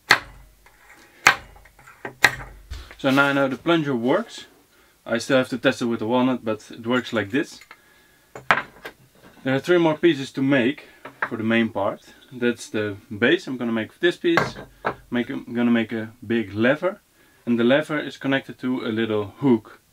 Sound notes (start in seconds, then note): 1.2 knocking; 8.5 clanking